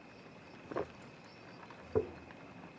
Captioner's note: swallows